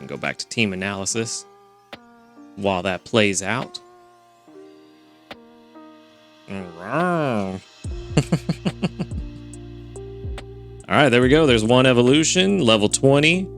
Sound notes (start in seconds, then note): 6.5 upbeat music; 8.1 laughs